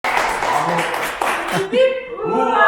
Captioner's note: applause